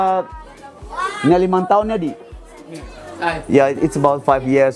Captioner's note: foreign language